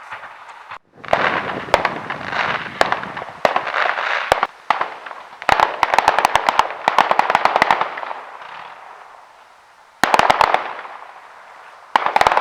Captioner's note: marching music playing; firework sounds